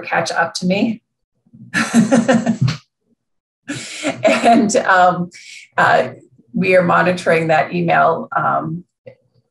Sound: laughing

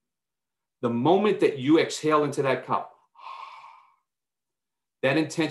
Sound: exhales deeply

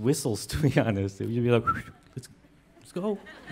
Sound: whistles

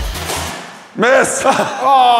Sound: laughs

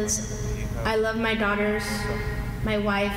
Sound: speaking foreign language

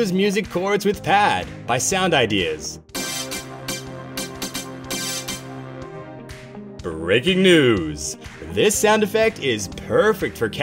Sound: SFX plays

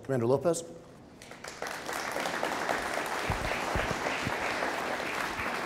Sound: audience applauding

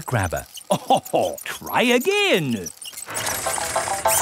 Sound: chuckles

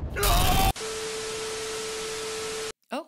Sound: static; explosion

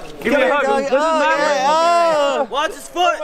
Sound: exclaiming

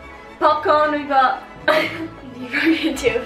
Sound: laughs

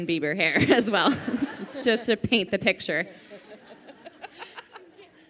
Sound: laughing

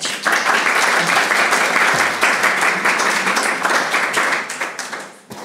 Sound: audience applauds

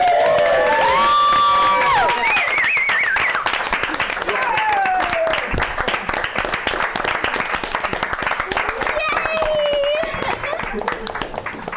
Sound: applause

